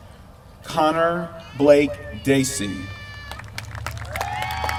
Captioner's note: applause